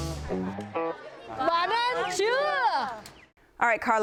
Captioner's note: speaking Vietnamese